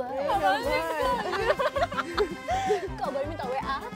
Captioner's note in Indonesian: Ketawa